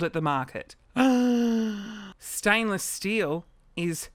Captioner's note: gasps